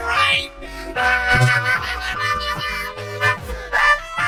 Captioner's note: laughing hysterically